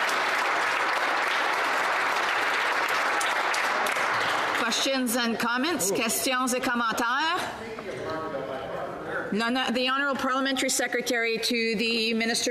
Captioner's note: applause